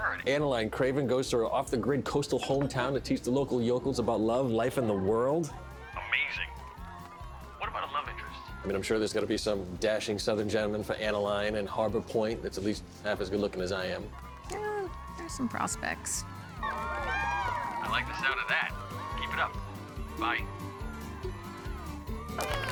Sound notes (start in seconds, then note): 16.5 cheering